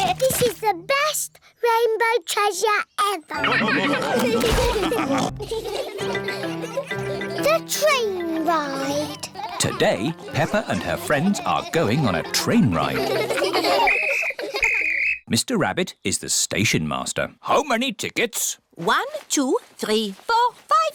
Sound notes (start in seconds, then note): 3.3 all laugh; 5.3 laughter; 14.5 blows whistle